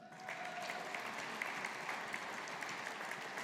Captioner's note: audience applauding